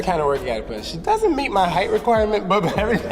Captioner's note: chuckling